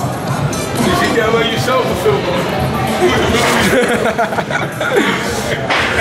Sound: haHaHa

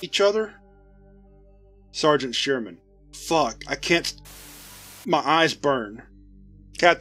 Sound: static

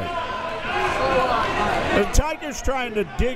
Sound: crowd members shouting

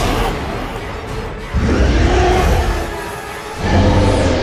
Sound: roars

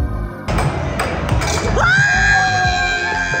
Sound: chill electronic music; puck slamming; people shouting

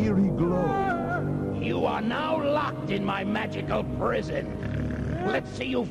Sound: snort

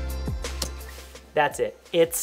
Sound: key clicking

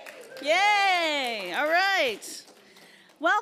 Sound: applauds

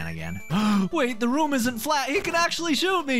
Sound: gasp

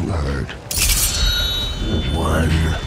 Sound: blades clang

